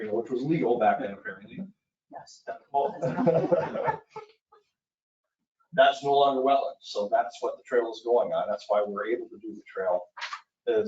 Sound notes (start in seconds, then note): 2.9 laughing